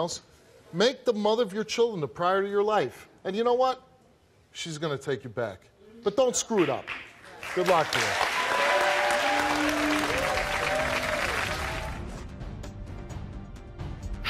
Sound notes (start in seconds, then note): 8.5 audience cheers and applauds; 11.6 dramatic music